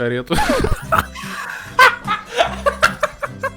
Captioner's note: laugh